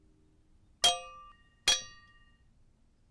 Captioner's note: clanking pot